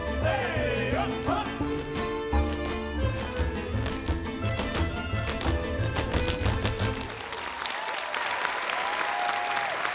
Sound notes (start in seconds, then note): 2.4 upbeat folk music; 2.4 feet stomping; 6.2 audience applauding